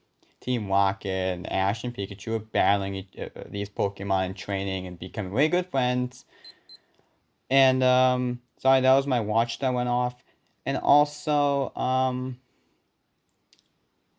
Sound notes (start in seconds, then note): 6.4 watch Beeps